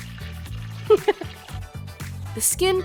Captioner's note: giggles